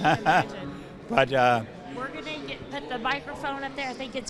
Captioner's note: laughs